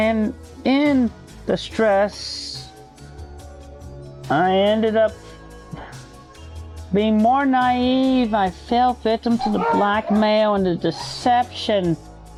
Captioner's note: dog barking